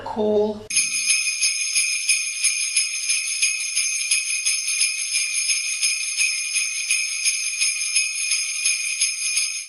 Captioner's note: sleigh bells